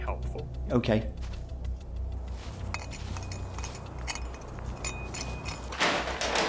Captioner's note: continues scraping